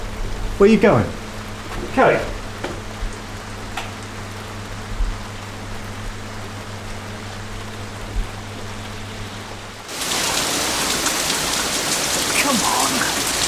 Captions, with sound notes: Where are you going? Kate?!... [ HEAVY RAIN ] Come on!